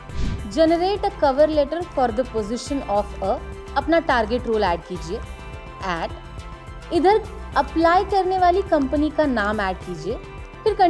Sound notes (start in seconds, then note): 3.4 non-english speech